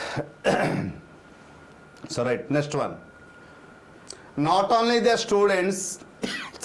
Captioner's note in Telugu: గొంతు సవరించుకోవడం